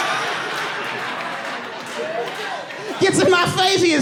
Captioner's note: audience laughing